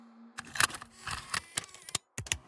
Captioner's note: video tape charging